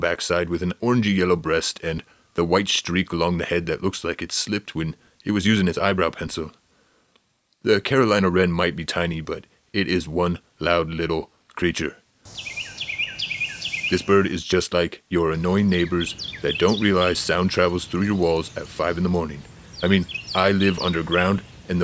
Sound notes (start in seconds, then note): 12.2 wren singing loudly